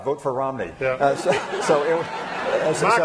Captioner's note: laughter